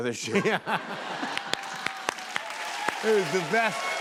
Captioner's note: laughter and applause